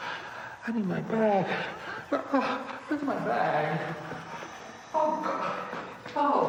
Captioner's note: whimpers